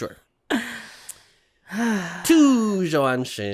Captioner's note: sigh